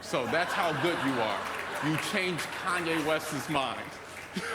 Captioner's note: applause